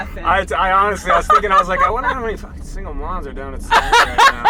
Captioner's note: laughs; mumbles; laughs